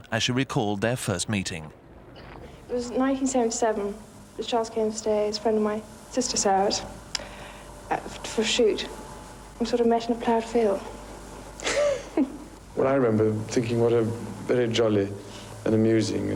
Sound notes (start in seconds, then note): 11.6 laughing